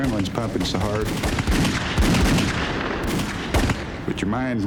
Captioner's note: gunfire